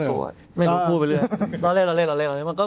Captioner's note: laughs